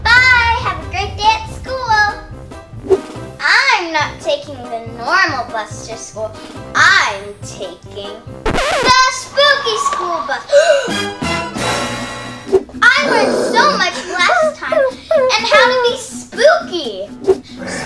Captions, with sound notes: Bye, have a great day at school. I'm not taking the normal bus to school. I'm taking (record scratches) the spooky school bus! (gasps) (Paw Patrol whimpering) I learned so much last time on how to be spooky.